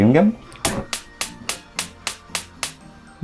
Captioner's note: gas burner starts in Lithuanian